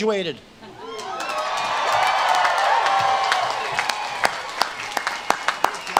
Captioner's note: audience claps and cheers